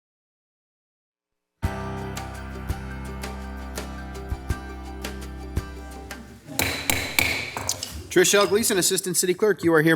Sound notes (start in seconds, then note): 1.6 bright music; 6.5 gavel bangs